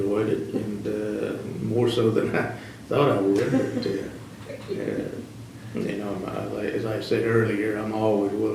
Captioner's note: laughter